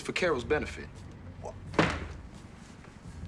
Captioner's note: stamps foot